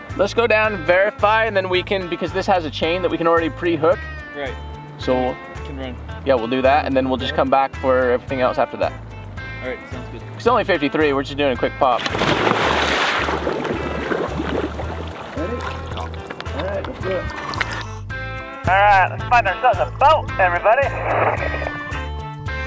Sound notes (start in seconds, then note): 11.4 soft music; 11.9 water splashing; 22.5 soft music